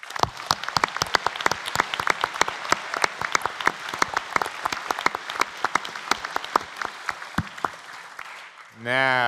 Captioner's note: applause